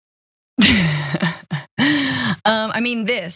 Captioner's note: laugh